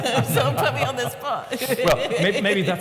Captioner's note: laughs